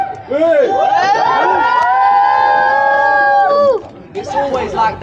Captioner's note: cheers